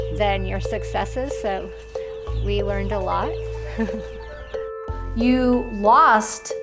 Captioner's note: chuckles